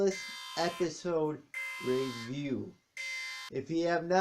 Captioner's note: alarm stops